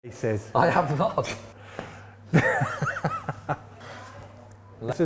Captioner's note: laughs